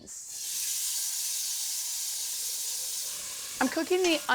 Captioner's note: sizzling